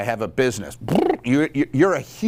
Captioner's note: lips flapping